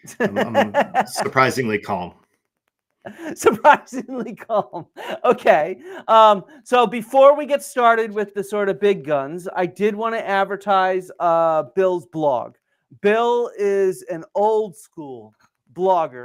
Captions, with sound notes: (laughs) Surprisingly calm. Surprisingly calm. Okay. So before we get started with the sort of big guns, I did wanna advertise Bill's blog. Bill is an old school blogger.